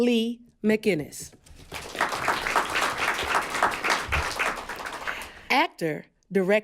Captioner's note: applause